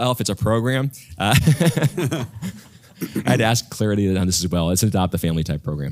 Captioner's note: laugh